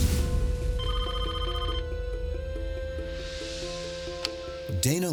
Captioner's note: phone ringing